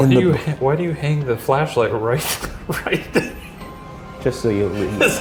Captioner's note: laughing